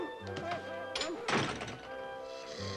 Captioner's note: door closes; snoring